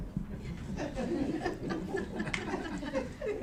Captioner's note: laughing